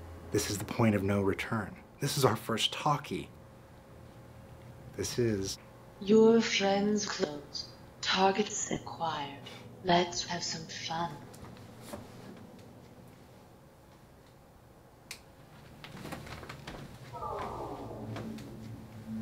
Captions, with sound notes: This is the point of no return. This is our first talkie. This is. - [Voiceover] Your Friends Close, targets acquired. Let's have some fun.